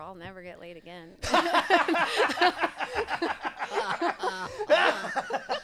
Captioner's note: laughing